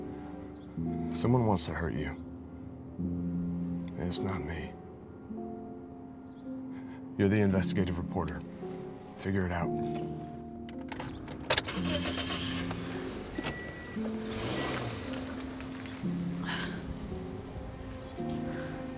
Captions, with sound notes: - Someone wants to hurt you. And it's not me. You're the investigative reporter, figure it out. (engine starting) (soft piano music)